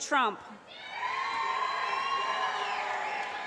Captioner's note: cheering